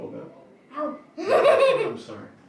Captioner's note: laughs